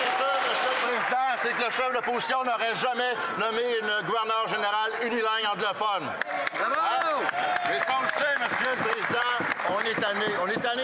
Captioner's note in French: applaudissements